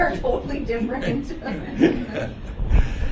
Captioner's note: laughter